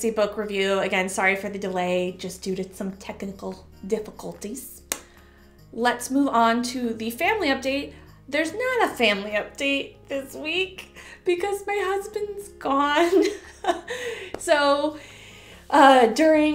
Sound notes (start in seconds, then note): 13.3 chuckle